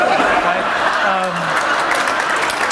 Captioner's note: applause